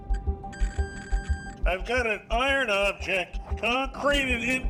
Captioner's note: metal detector beeping; speaking over radio